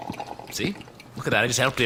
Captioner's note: footsteps, distant slurping